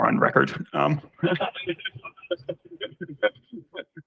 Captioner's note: laughter